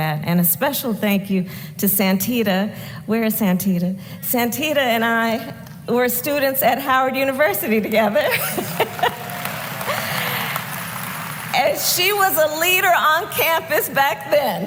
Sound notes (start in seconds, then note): 8.0 laughs; 8.3 applause